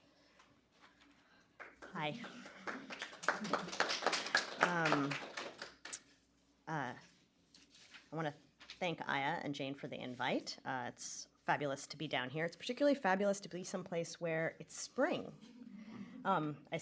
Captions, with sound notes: Hi. [APPLAUSE] I want to thank Iah and Jane for the invite. It's fabulous to be down here. It's particularly fabulous to be someplace where it's spring.